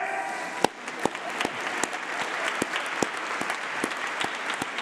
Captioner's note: applause